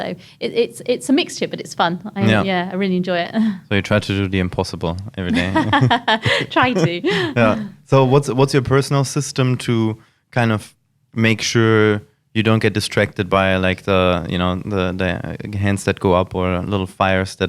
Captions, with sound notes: So it's a mixture, but it's fun. - Yeah. - Yeah, I really enjoy it. - So you try to do the impossible every day. (laughs) - Try to. - Yeah, so what's your personal system to kind of make sure you don't get distracted by like the hands that go up or little fires